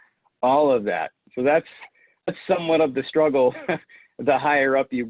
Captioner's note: chuckles